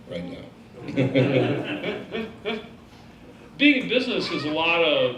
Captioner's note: laughing